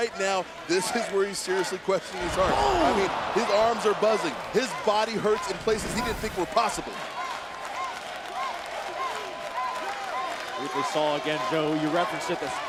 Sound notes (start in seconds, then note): 6.4 applause